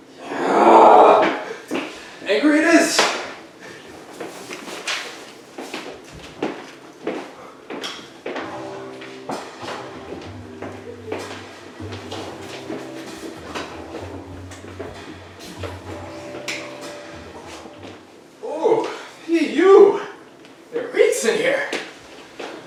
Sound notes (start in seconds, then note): 0.9 groans angrily; 4.0 grabbing coat, footsteps